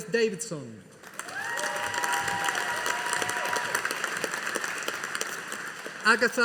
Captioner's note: audience applauding